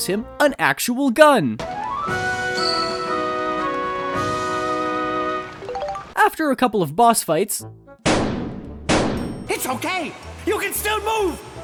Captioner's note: kaboom